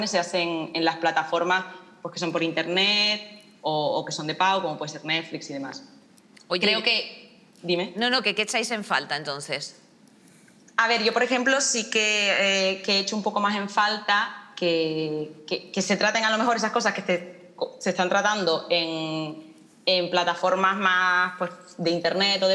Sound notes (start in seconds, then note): none